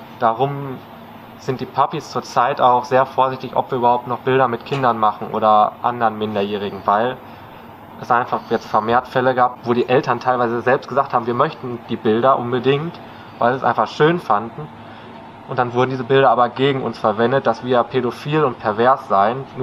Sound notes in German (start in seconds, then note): none